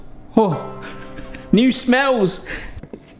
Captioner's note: chuckling